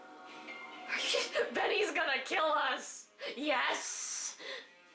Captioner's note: shocked noises